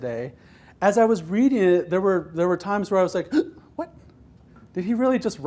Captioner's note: gasps